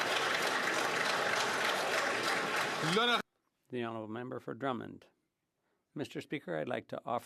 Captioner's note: some Applause